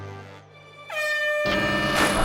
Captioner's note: air horn sounds